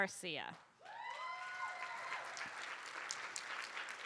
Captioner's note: cheers and applause